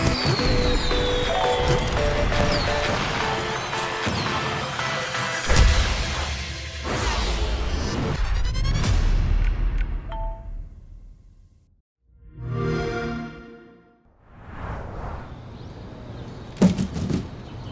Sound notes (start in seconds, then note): 4.4 music fades; 12.4 xbox sound; 13.6 birds chirping; 16.6 package thuds